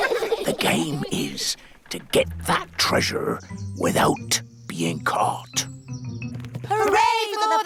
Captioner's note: all giggle; whispers